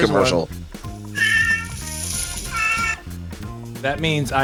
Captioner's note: cat meows